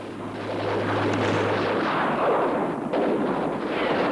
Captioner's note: guns firing